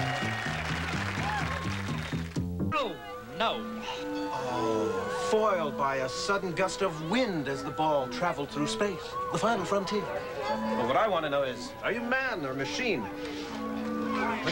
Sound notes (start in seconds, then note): 4.6 imitates Captain Kirk